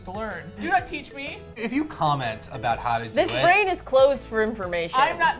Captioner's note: buzzer